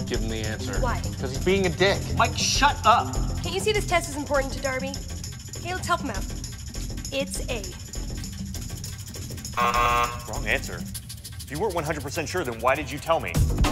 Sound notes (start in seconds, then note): 9.6 negative beep